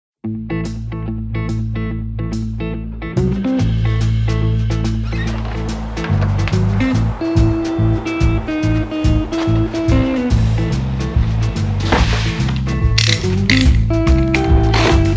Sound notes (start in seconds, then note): 0.0 mellow music; 5.2 creaking; 12.1 whooshing; 12.9 clicking; 14.9 slicing